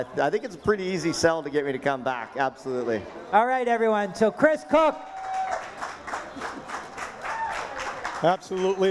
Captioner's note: applause